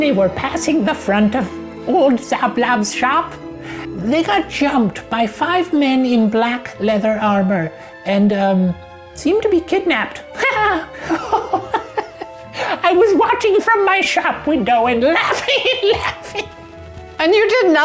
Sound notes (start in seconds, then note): 10.9 laughs